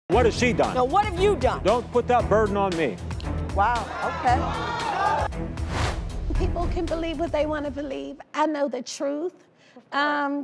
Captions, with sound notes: What has she done? No, what have you done? Don't put that burden on me. Wow, okay. (crowd shouting) People can believe what they wanna believe, I know the truth.